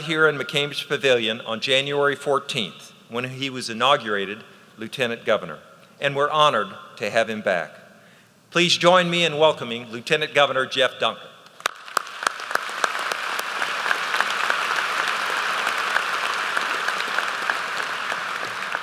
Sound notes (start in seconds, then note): 11.5 applause